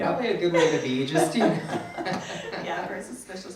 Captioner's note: both laugh